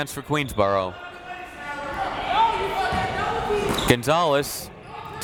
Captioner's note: crowd members shouting